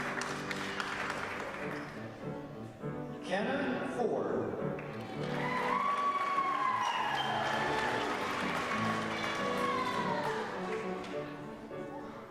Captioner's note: applause